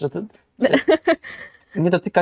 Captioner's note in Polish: śmiech